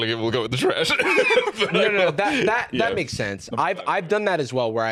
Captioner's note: laughs